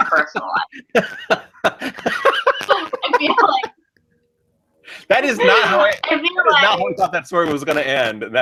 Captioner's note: laughs; laughs more